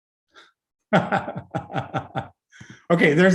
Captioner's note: laugh